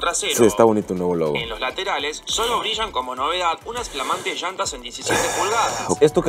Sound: man speaking in Spanish

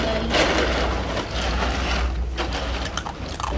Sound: noise of ice cubes shifting; noise of ice cubes shifting and Earle crunching ice; background music; noise of ice cubes shifting and Earle crunching ice; background chatter

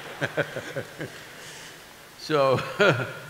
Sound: laughter

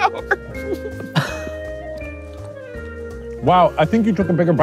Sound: laughing

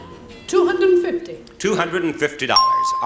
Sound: bell rings

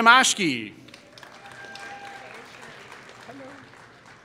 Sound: applause

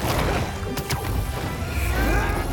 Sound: none

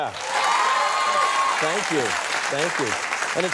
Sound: screaming and clapping

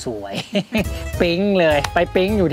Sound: chuckles

